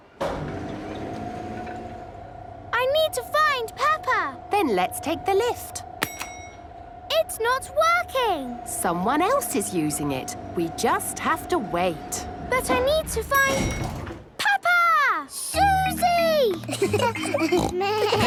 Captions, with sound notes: - (lift moving) - I need to find Peppa! - Then let's take the lift. - (lift pings) - It's not working! - Someone else is using it. We just have to wait! - But I need to find... Peppa! - Suzy!